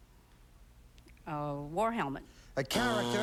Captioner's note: buzzer